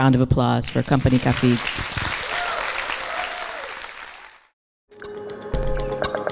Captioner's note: audience cheers and applauds; upbeat music